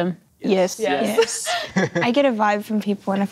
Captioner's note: giggling